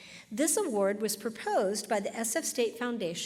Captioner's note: none